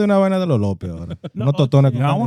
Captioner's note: speaking In Foreign Language